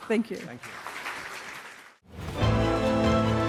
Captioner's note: applause